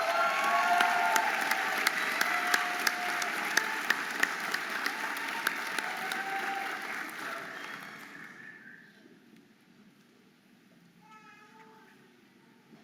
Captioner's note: audience applauding and cheering